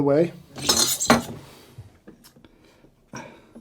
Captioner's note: milk pitcher clinks on steam wand